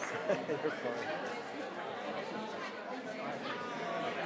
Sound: people chattering

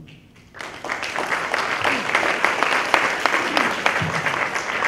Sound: applause

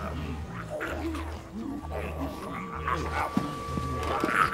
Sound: distant chomping

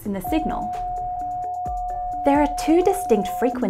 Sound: signal humming

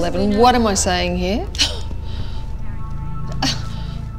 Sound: laughs

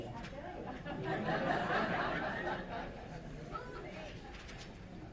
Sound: loud laughter

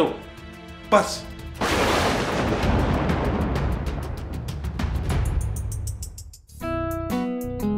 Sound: thunder!

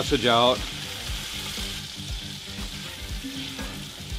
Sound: pan simmering

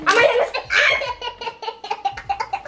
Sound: shrieks; laughs loudly

